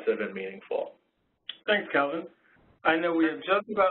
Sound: voiceover

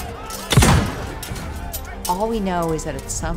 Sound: gun shoots

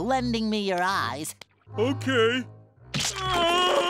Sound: grunting

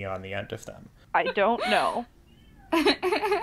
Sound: laughs

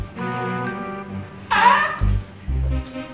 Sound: caws

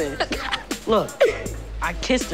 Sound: papa laughing

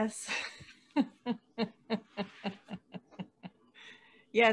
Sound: laughing

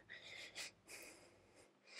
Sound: Minnie sniffles

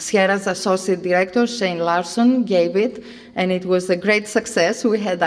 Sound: none

